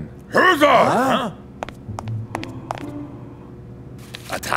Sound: Block grunts

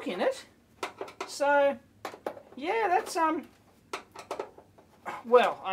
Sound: screwdriver unscrewing

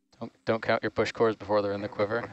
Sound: male Voice

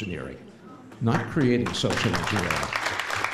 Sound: applause

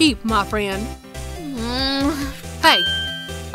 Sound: groan

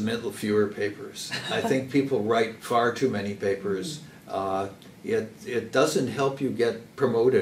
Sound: laugh

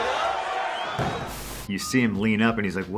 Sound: smacking mat

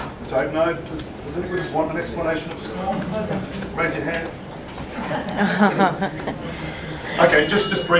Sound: laughter

